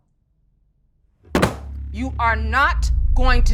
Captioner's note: Wanda slaps counter